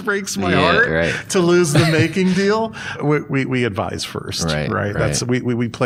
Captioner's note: chuckles